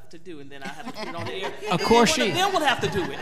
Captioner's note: all laughing